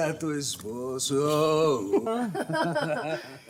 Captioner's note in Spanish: Risas